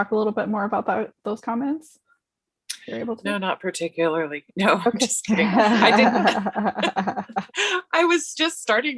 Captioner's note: laughs